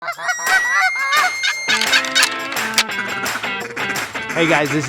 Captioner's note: various Animal Calls